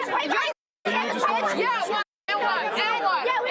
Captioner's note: yelling